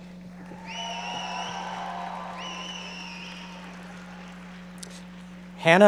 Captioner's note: audience members cheering and applauding